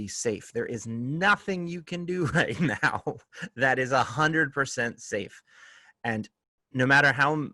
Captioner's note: laughter